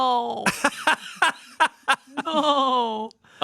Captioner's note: laughs